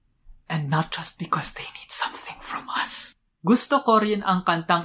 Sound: whispers

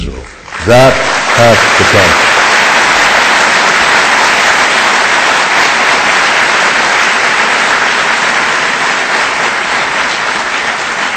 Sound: audience applause

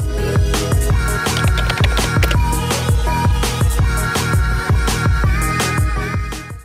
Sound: upbeat music; keyboard clicking

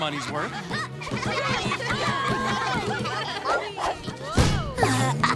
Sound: laughter

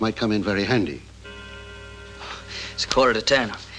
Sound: clock chimes

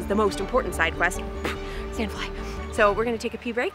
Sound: pfft

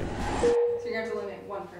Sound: text dings

